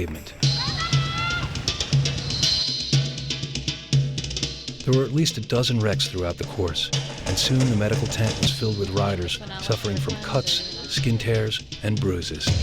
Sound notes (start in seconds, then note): 0.1 frenzied music; 4.7 voiceover; 12.4 dramatic music